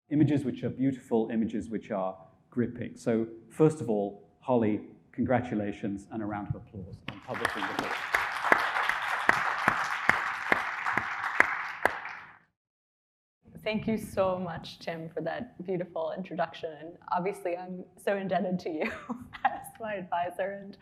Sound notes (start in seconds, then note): 10.1 audience applauding; 20.0 chuckling